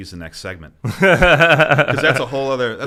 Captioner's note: laughs